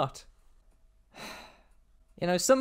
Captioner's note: sigh